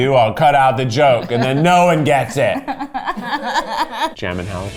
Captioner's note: laughs